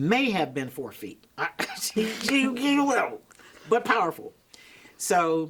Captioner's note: laughs